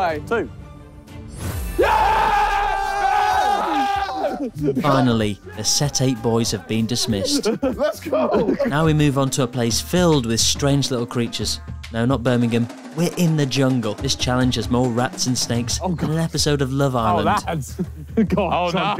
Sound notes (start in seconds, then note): 1.6 group cheering